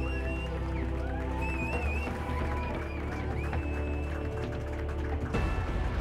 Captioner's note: sound of cheering and applause